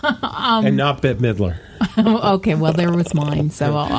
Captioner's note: laughs